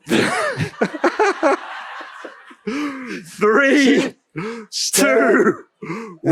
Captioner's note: laugh/śmiech